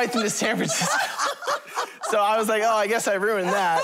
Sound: laughter

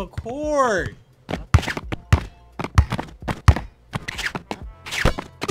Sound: basketball being dribbled

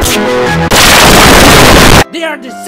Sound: even more boom boom

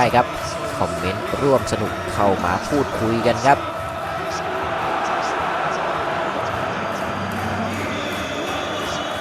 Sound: applause

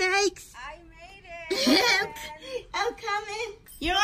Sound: laughing

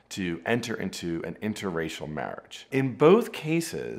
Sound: none

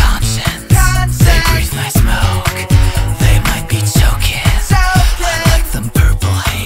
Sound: choking

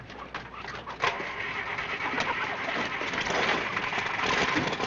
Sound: engine revving

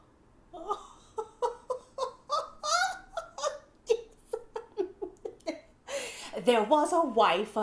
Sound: giggling

